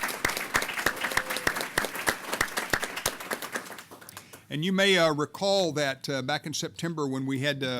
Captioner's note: applause